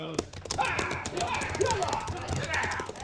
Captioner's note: yelling